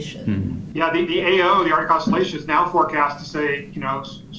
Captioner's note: on phone